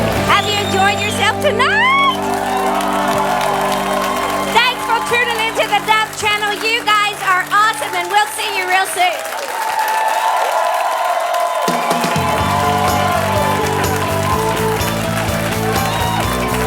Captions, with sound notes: Have you enjoyed yourself tonight? Thanks for tuning in to the Dove Channel, you guys are awesome and we'll see you real soon. (audience applauding) (upbeat music)